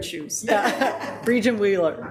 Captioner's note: people laugh